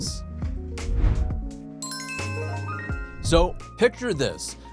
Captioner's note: light upbeat music; bell jingling